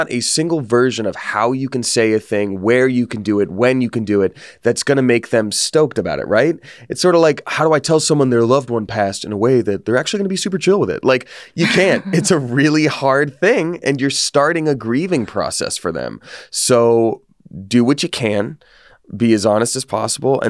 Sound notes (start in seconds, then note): 11.6 laughs